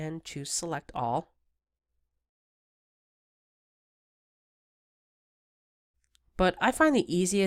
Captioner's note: silence